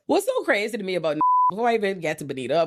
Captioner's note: beep